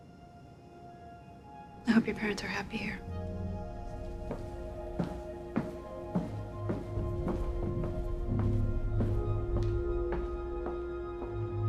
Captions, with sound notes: I hope your parents are happy here. (tense music) (footsteps plodding)